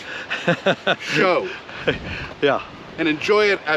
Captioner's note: laughs